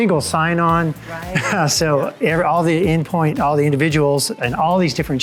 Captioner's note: chuckles